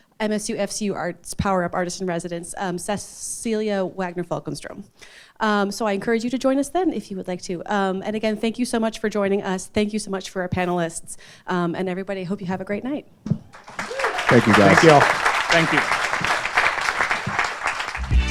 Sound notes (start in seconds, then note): 13.5 audience applauding